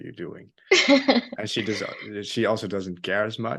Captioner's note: laughing